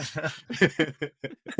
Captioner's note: laughing